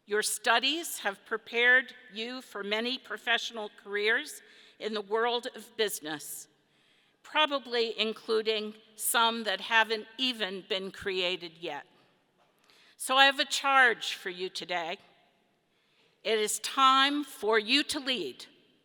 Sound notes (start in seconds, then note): none